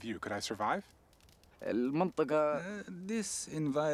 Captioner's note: speaking in local language